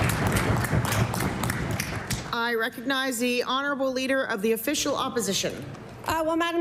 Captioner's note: applause